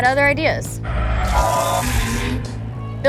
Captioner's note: tires screeching & crowd cheering